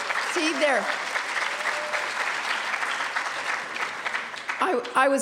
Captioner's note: applause